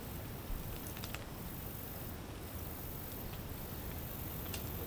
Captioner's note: fire crackling and insects singing